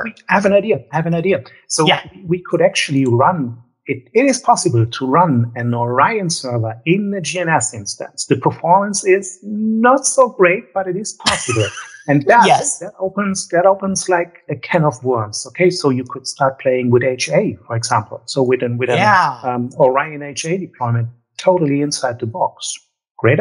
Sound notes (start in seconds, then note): 13.0 laughs